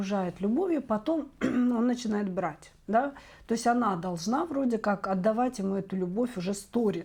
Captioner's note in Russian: откашливается